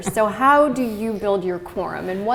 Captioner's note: chuckle